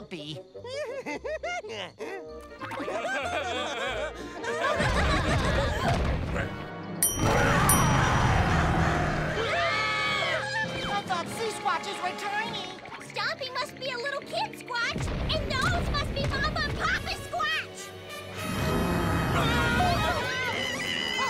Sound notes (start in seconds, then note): 0.6 giggling; 2.2 laughing; 7.1 roaring; 8.7 screaming; 18.4 growling; 18.4 screaming